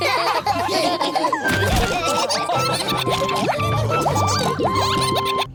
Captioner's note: all laughing